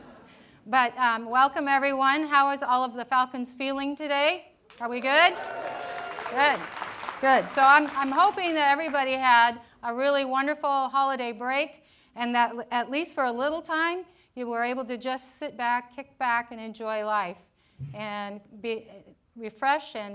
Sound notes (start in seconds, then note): 0.0 laughter